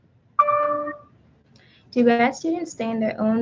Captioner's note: computer dings